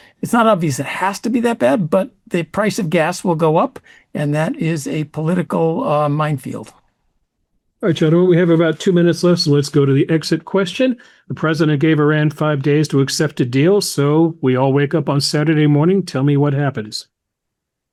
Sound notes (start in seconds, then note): none